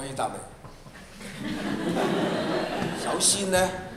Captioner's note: Cantonese; laughter